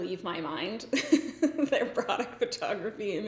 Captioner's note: laughs